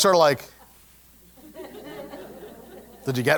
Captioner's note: laugh